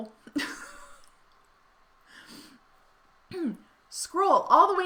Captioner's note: laughing